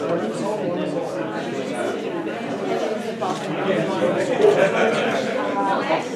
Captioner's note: audience chattering indistinctly